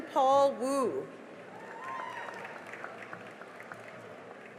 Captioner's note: cheering and applause